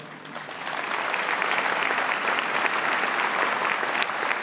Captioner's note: audience applauds